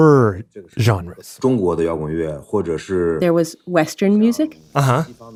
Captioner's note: speaking Mandarin Chinese